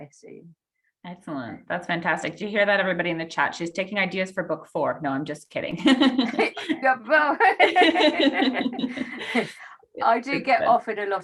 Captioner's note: laugh